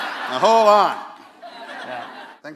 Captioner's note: laughter